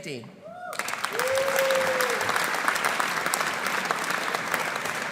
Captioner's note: audience cheering; audience applauding